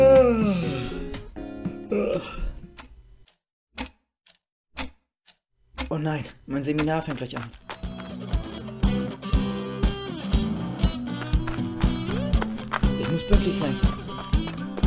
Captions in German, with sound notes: *Gähnen* *Gähnen* *Uhr tickt* "Oh nein, mein Seminar fängt gleich an." *aufregende Musik* *Trittgeräusche* "Ich muss pünktlich sein."